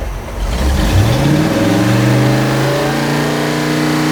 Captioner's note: engine revving